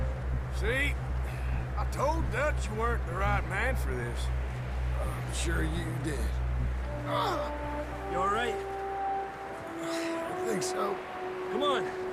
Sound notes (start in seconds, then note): 7.2 John screams in pain